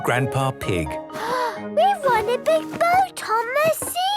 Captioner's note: gasps